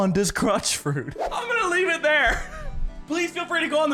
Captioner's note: chuckles